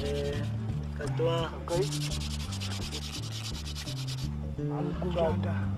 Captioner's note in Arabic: بالثرثرة بلغة أجنبية